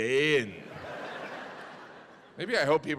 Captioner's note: audience laughing